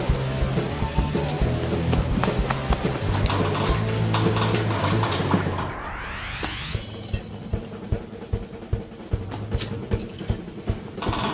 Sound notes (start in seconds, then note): 3.4 gate rattling; 6.4 frantic drum music